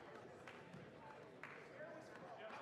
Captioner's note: applause